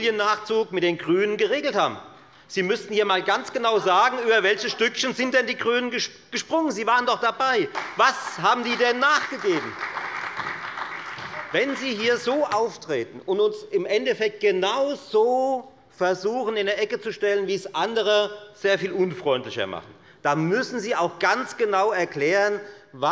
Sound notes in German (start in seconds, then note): 9.6 Beifall bei der FDP und der SPD